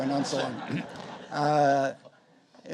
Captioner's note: audience laughs